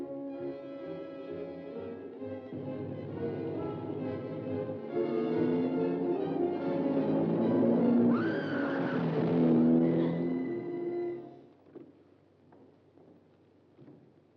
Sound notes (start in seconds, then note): 8.0 June screams